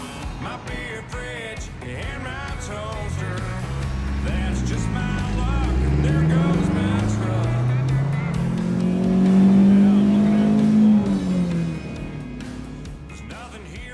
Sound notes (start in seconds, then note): 9.0 truck engine revving; 11.9 gentle upbeat music